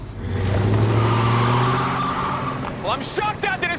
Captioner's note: tires screeching